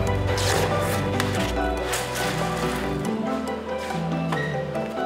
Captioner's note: background noise in the workshop